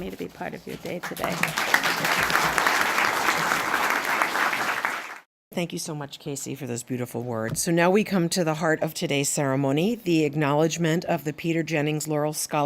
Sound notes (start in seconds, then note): 1.0 applause